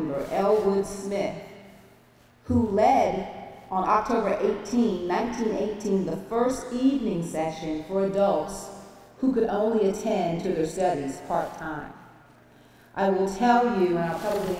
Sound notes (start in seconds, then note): none